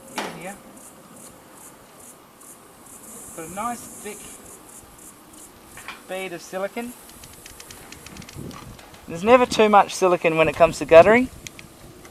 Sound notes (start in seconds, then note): 1.9 crickets chirp